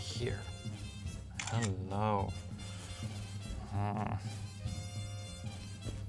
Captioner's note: camera shutters